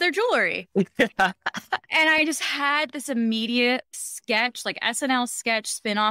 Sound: laughs

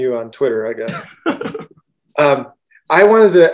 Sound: laughs

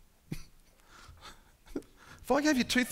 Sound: laughing

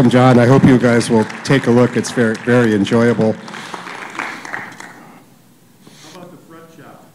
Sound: applause

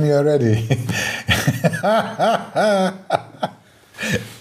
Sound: laughing

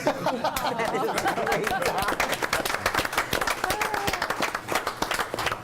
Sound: group laughs and applauds

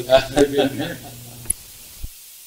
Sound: laughs

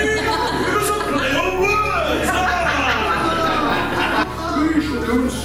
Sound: audience Laughing

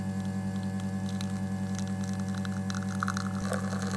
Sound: espresso drips

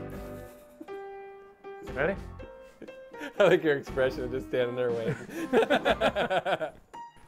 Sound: laughs

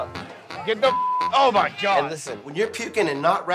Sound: beep

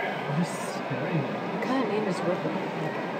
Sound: chattering

